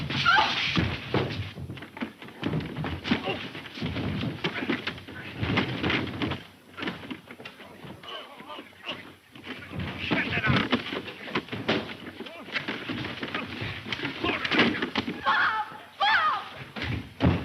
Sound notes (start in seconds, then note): 3.1 men grunting; 12.4 man grunting